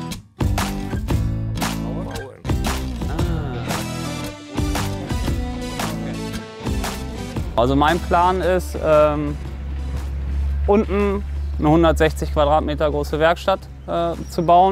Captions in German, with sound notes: (Leise Gesprächsfetzen) Also mein Plan ist ... unten eine 160 Quadratmeter große Werkstatt zu bauen.